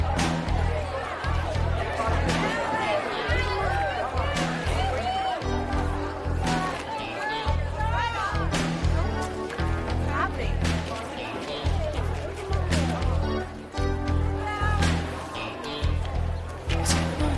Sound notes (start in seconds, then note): 0.1 inmates chattering; 6.5 inmates cheering